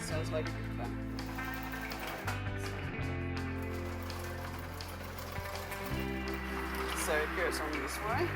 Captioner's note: sewing machine sounds